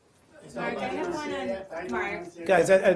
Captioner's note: reporters chatter